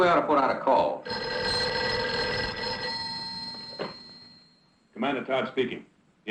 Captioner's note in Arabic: رنين الهاتف